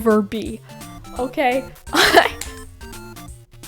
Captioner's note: laughs